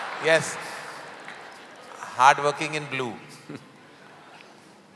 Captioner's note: Sadhguru laughs